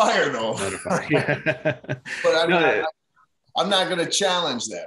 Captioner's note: both laugh softly